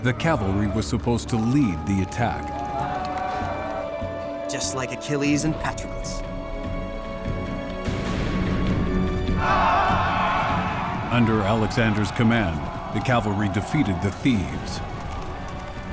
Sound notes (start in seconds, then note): 3.0 all cheering; 7.7 inspiring music; 9.3 cheering